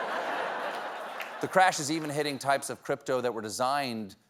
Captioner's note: laughter